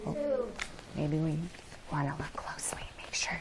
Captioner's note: whispers